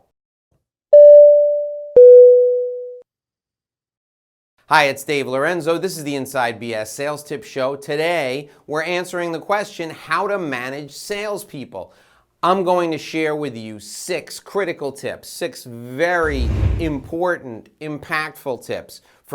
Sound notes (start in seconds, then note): 0.9 beep